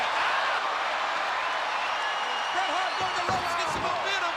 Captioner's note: crowd cheering